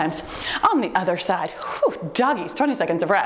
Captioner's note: timer beeps